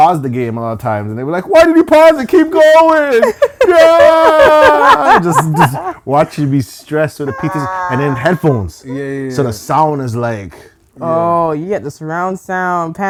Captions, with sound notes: the game a lot of times, and they'll be like, "Why did you pause it? "Keep going." (laughing) - Want you be stressed with the pieces and then headphones. So the sound is like... - Oh, you get the surround sound,